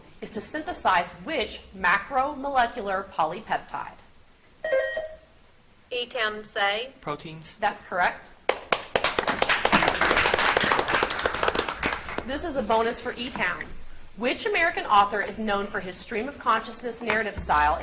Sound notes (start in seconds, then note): 4.7 buzzer beeps; 8.5 audience applauds